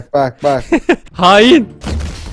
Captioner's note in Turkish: Gülerek